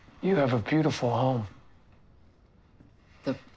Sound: none

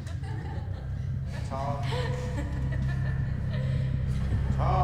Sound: laughter

